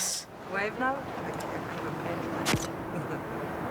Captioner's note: camera snaps